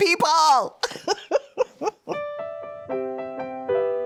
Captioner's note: laughing